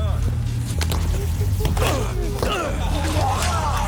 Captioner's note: grunting; man retches